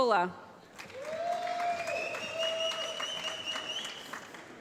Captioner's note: applause